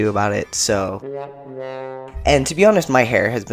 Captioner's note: sad trombone sound effect